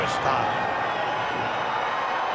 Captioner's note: applause